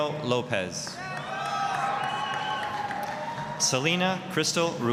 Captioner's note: applause, cheering